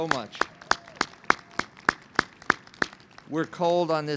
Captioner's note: audience applauds